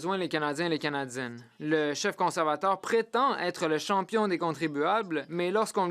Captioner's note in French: voix de l'interprète